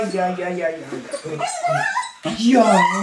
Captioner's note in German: Winseln